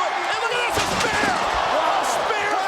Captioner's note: audience cheers